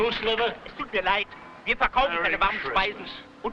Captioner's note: man speaking foreign language